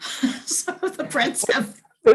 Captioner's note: laughing